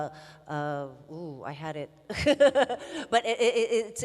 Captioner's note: laughs